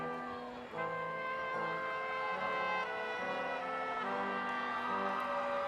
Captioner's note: crowd cheering